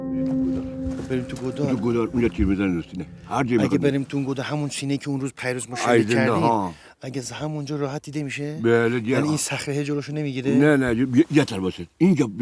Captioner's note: talk on Persian language